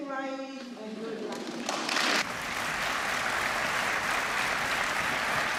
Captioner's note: applause